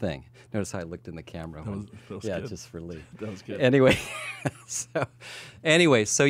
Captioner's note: laughs